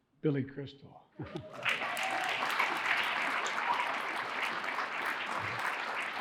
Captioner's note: audience cheering and applauding